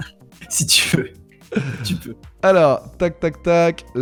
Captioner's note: laughs